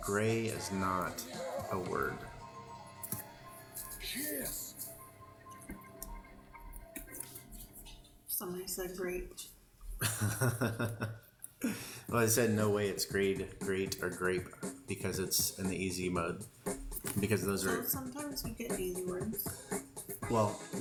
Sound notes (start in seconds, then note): 10.0 laughter